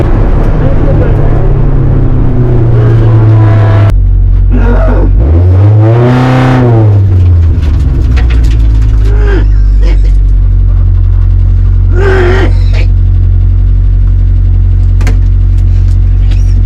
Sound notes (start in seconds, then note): 1.9 dry heaving- vomiting sounds